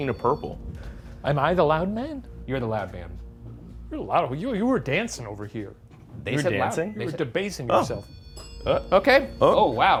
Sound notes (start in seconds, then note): 7.6 REM pod beeping; 7.8 bell dings